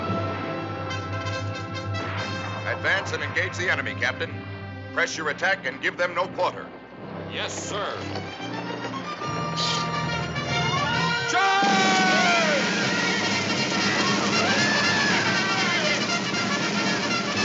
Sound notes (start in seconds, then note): 12.7 soldiers whooping